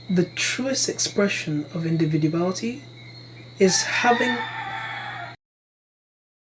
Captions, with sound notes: The truest expression of individuality, is having- *rooster crows*